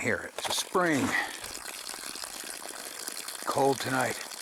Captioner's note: water running sound